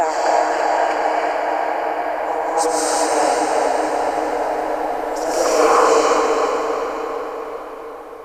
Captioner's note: very distorted